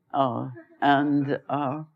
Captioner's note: laughter